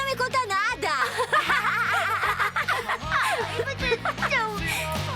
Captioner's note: laughter